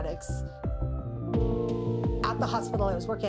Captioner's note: police siren blaring